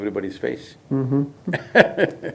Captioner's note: laughs